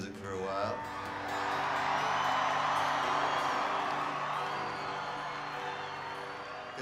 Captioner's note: audience cheering